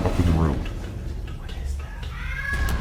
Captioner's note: upstairs scream